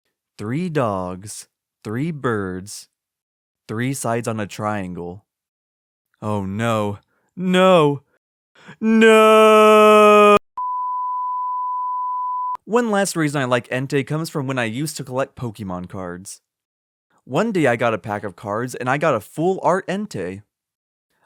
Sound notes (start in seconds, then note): 10.6 beep